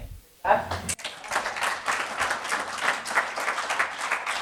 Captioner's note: audience applauding